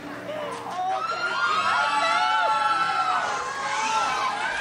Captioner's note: crowd cheers